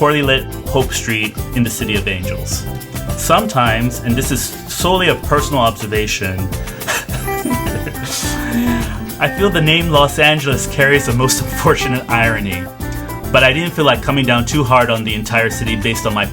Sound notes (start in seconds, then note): 6.8 laughs